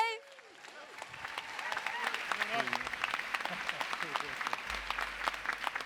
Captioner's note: applause, cheering; applause